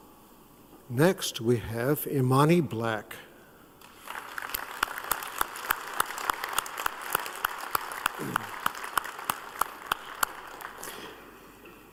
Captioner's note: applause